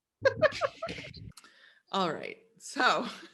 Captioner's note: laughing